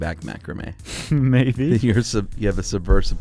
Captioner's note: laughs